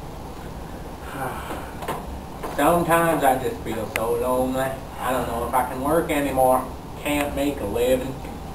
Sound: sigh

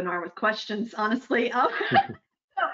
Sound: laughing

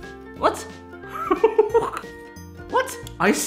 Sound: laughs

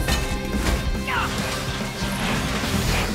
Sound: grunting

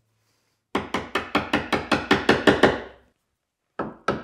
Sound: hammer taps

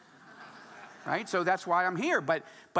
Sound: audience laughing

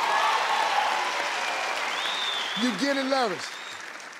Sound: applause

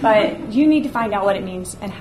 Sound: audience laughs

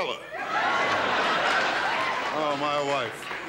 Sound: audience laughs

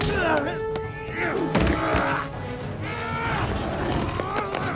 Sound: grunting and punching noises

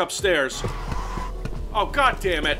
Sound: scooter starting

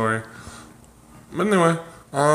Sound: slight heavy breathing

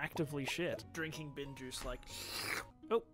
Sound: loud slurping

